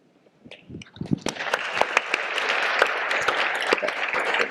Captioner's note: audience applause